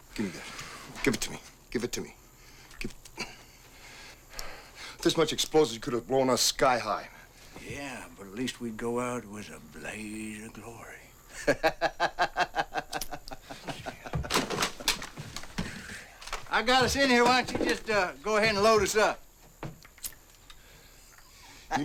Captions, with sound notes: - Give me that, give it to me, give it to me, give it. With this much explosives, you could have blown us sky high, man. - Yeah, but at least we'd get out with a blaze of glory (laughs) I got us in here, why don't you just go ahead and load us up? (laughs)